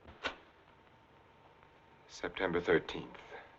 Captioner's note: switch clicking